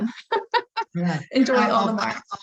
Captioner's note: laughing